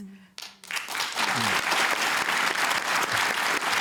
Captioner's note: applause